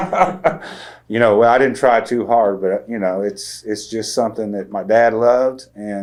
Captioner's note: laughs